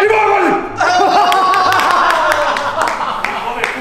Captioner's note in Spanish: aplauden